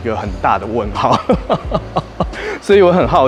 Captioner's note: laughs